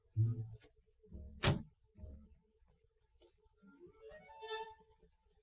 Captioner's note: car door slamming